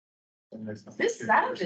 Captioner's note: indistinct chattering